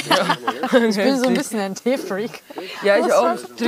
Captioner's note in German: lacht